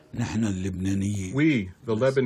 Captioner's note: through translator